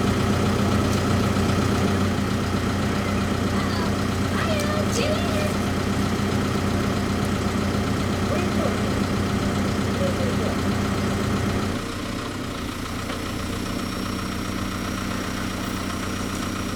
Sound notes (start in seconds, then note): 12.4 motor humming